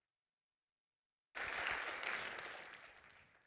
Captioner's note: applause